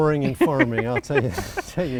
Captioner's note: chuckling